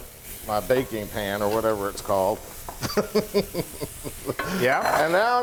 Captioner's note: laughs